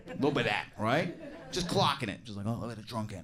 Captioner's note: audience giggles